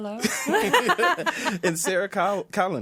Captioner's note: others laughing